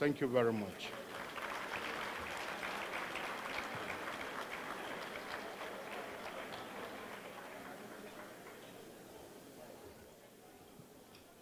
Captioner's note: applause